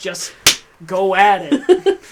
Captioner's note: clap; laughs